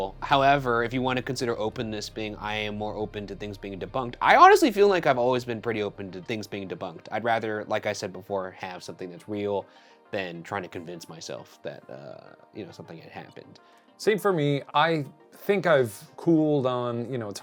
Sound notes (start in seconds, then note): none